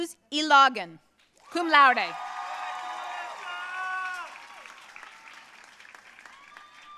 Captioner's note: audience cheering and applauding